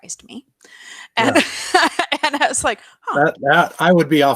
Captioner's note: laughs